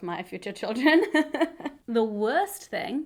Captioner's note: chuckles